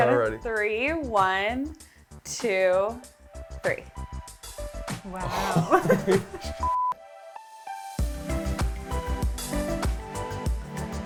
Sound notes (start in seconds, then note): 6.6 beep; 8.1 bright music